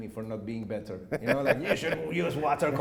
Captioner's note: laughing